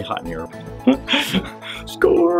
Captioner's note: laughs